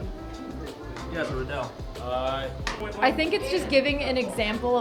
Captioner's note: deep Voice